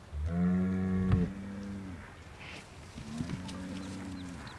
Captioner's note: cows mooing